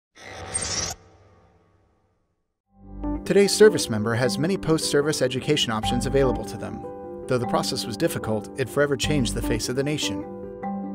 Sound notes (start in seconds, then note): 0.2 mechanical sfx